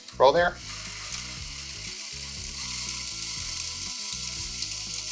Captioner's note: drill buzzing